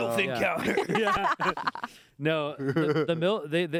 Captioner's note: everyone laughs